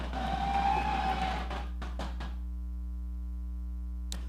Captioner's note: audience cheering